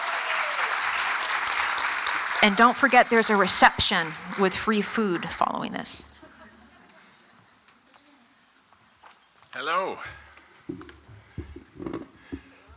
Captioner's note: applause